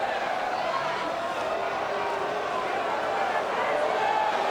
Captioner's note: audience jeers